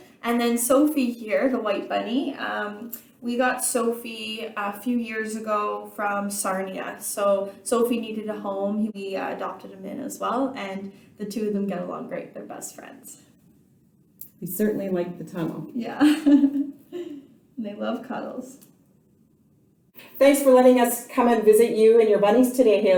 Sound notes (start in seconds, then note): 16.0 laughing